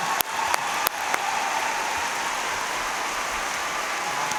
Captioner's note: cheers and applause